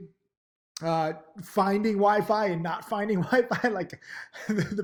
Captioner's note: laughs